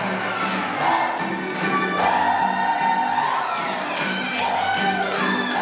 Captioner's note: applause